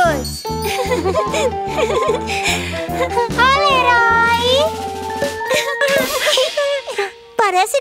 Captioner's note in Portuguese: Risos